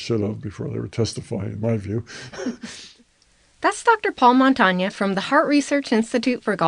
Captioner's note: both laugh